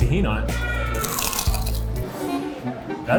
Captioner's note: crunches